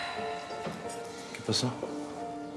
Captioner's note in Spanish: suspiros